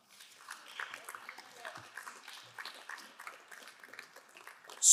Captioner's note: crowd applauding